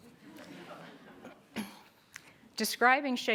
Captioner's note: group laughter